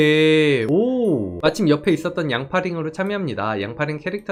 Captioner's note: voiceover